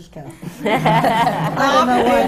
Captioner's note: laughter